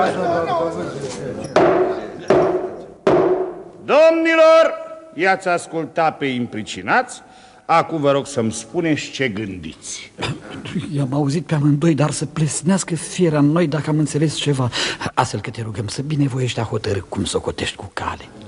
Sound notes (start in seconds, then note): 1.5 sound of a judge's gavel